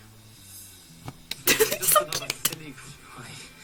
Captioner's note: clapping again lol